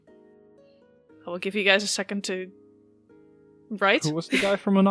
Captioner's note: Soft laugh from Alyssa